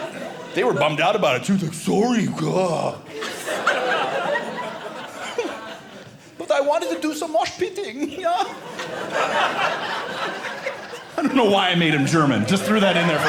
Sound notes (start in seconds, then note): 3.0 audience laughing; 5.5 German accent; 8.0 audience laughing